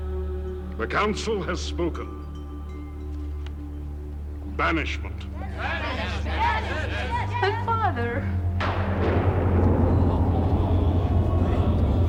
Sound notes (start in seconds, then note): 8.6 thunder claps